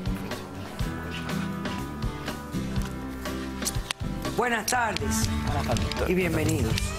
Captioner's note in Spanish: murmullos